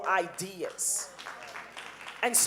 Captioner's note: audience applauding